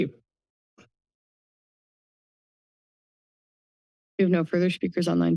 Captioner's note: silence